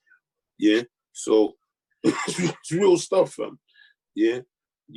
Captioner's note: coughs